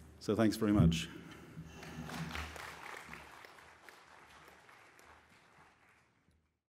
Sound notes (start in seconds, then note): 1.8 applause